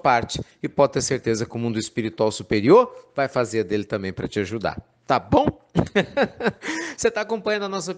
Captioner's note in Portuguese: Risos